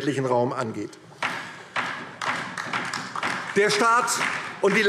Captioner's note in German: Beifall DIE LINKE